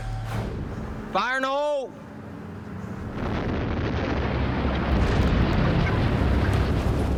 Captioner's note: explosion